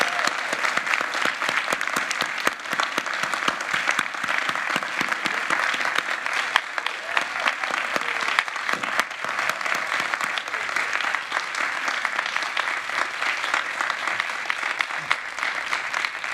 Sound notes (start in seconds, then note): 3.0 applause